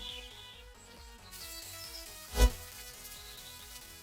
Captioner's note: sizzling